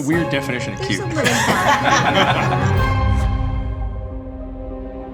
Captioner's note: crew laughs